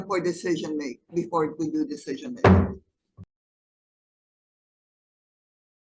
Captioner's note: gavel clanks